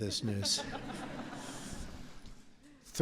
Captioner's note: laughter